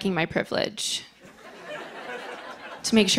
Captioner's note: laughter